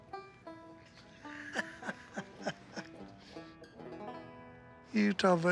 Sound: laughs

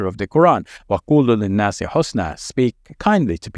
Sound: recites verse in Arabic

